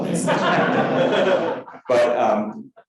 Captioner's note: crowd laughing